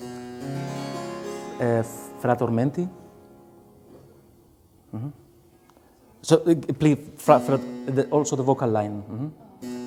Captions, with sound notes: [GENTLE MUSIC] [SPEAKING IN A FOREIGN LANGUAGE] So play also the vocal line.